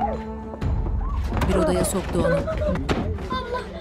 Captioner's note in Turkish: Ağlama sesi